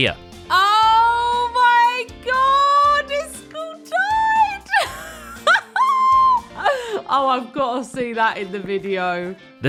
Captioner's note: laughs